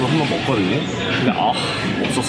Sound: ahh

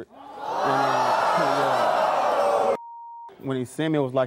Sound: audience gasps

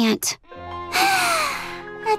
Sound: sighing

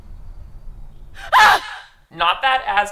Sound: suspense music; screams

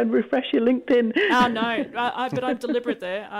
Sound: laughs

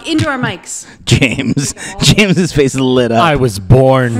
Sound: laughing

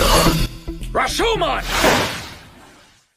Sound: balloon pops

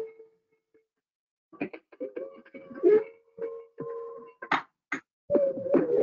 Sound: high pitched ringing and rhythmic thumping

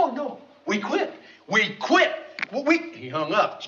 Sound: phone clicks

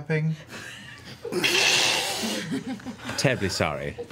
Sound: all laugh

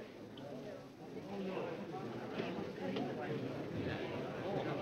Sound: people chattering

